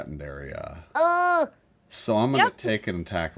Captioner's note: Linneus whines